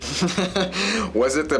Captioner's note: laughs